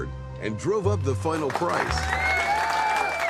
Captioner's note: Gejuich en applaus